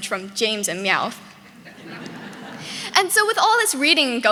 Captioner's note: audience laughing